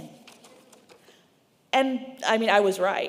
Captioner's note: paper rustling